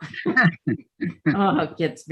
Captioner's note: laughing